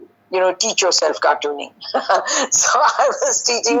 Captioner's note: laughing